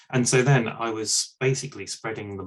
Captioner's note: none